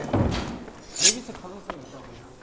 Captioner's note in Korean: 스-윽